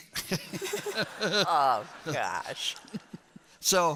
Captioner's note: laughter